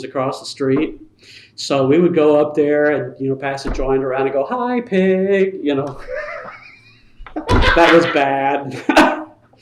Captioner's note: laughter